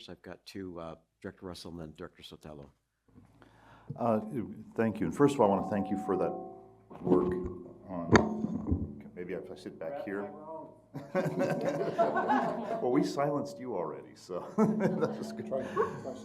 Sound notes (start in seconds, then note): 6.5 mic feedback; 10.9 laughter; 14.4 chuckles